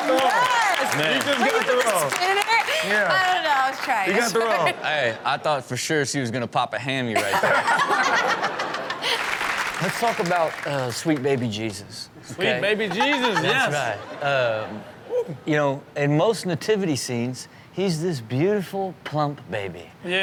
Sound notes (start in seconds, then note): 8.5 audience clap; 8.8 Chanel laughs